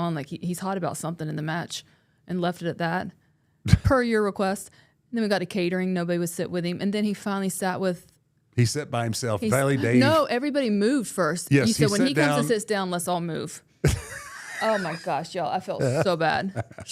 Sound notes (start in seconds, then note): 13.8 Mark laughs